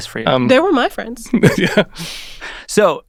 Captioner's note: chuckles